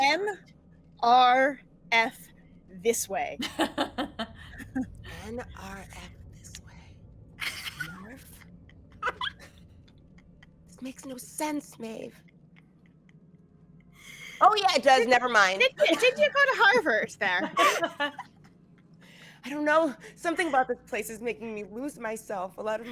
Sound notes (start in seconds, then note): 3.4 laughs; 17.2 all laughing